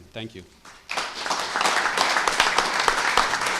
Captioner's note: applause